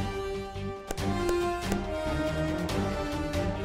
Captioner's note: pats on the back